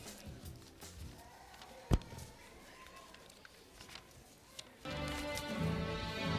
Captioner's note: applause